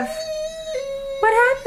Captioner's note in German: weint